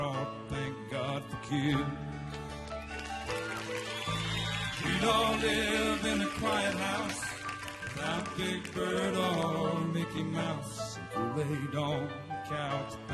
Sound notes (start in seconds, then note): 2.6 audience cheering